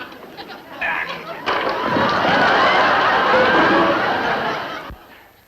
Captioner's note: wooden pieces tumbling